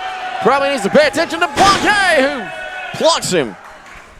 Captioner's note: body crashing